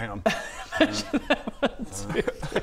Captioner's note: laughs